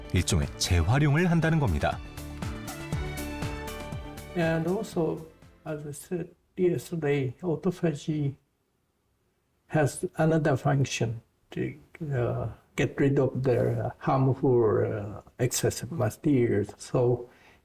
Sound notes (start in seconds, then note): 5.0 voiceover